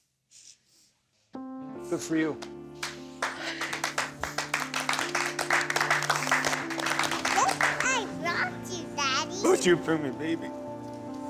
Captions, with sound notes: Good for you. [applause] Look what I brought you, Daddy. What'd you bring me, baby?